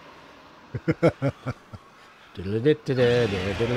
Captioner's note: humming